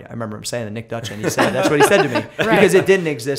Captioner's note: laughter